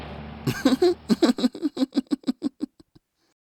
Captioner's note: chuckling